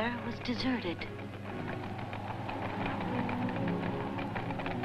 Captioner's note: wind gusting